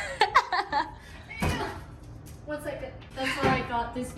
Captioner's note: laughing